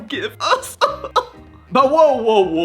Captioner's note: cough cough